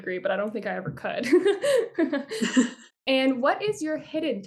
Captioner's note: laughter